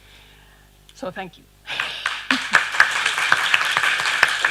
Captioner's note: applause